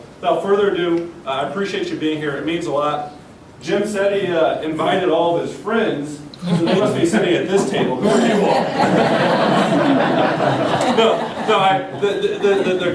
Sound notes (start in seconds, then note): 11.2 knocks